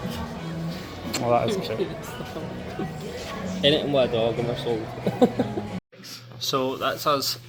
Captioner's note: laughs